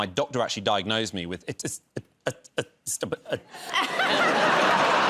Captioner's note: stammering; laughter